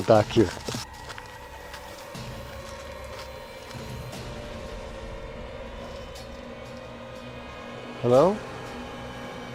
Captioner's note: crackling sound; music intensifies; intense music